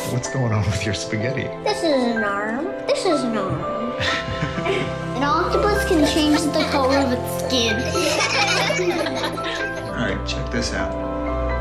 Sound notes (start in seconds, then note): 1.6 voice of child; 4.0 laughing together; 5.1 voice of child; 7.6 children laughing